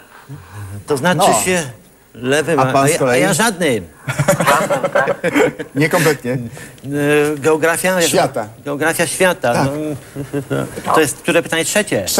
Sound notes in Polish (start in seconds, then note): 4.0 śmiech